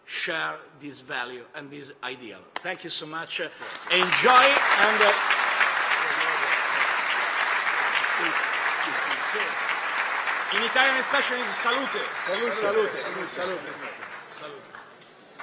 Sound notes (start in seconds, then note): 5.5 applause